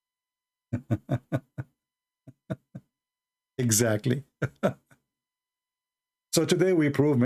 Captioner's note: Ketawa